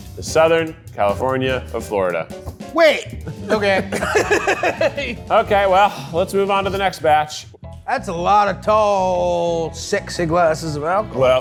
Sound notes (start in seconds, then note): 3.2 laughs